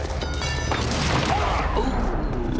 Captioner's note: grunts